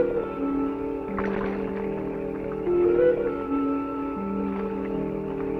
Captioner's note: water splashing